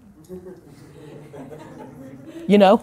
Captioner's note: laughter